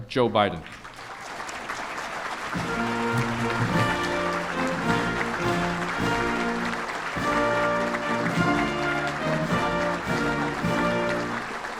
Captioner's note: applause